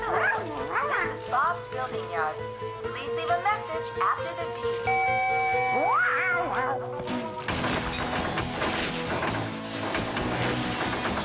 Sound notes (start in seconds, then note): 5.6 meowing; 7.0 machine beeps